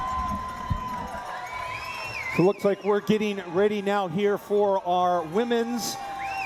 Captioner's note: cheering